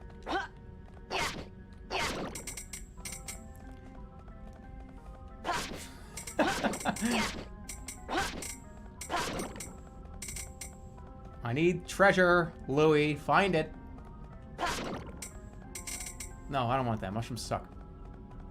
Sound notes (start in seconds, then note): 6.3 laughing